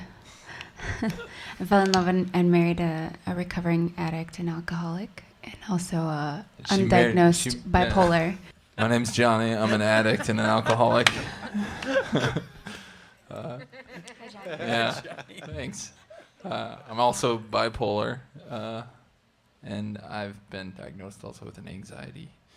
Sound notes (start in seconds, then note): 11.1 laughing